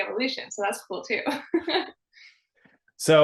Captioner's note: laughing